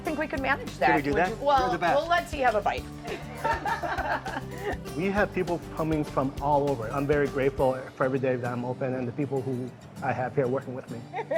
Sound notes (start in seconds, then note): 3.0 all laughing